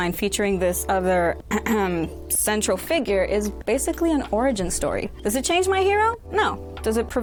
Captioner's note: ahem